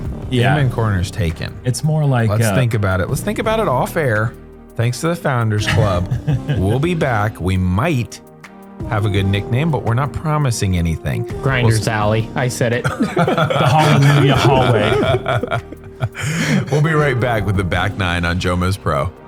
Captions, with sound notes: Amen Corner's taken. Let's think about it. Let's think about it off-air. Thanks to the Founders Club. We'll be back. We might have a good nickname but we're not promising anything. -Grinder's Alley, I said it. [laughter] -The Hallelujah Hallway. -We'll be right back with the back nine on JomezPro.